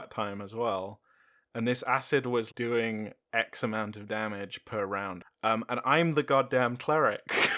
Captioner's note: laughter